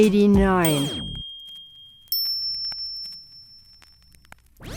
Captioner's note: bells ringing